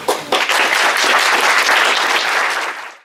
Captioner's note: audience applauds